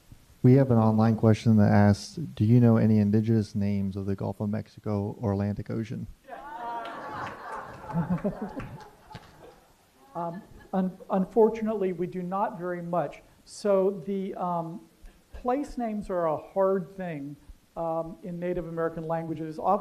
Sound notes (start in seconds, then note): 6.3 laughter; 6.7 applause